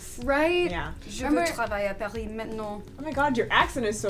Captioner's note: speaking french